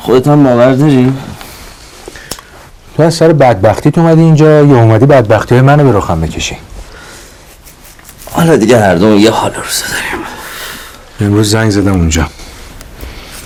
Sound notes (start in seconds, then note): none